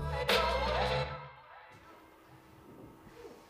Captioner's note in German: Ton aus dem Video verklingt